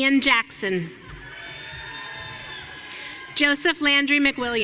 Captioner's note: audience cheering